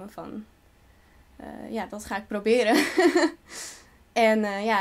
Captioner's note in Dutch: lacht